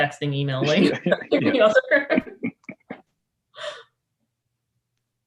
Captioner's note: panelists laughing